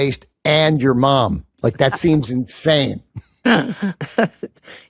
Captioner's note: laughs